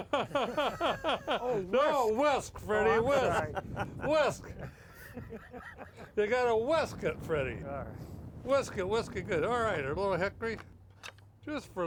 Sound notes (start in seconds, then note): 0.0 laughs; 4.4 laughs